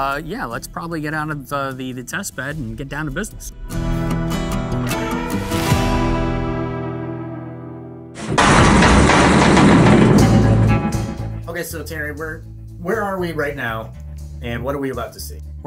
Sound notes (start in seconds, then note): 3.6 old western music ends; 8.2 cage slams shut